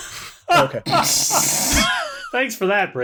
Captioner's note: laughter